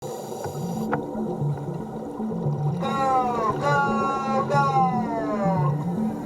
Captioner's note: underwater sounds